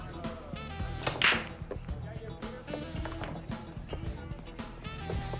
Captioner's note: balls clacking